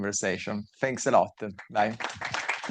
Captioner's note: audience clapping